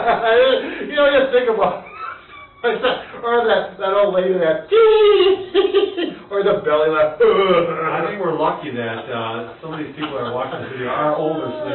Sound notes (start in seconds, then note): 0.0 both laughing; 0.0 laughs; 5.2 imitates elderly person high pitched laughing; 7.3 imitates belly deep laughing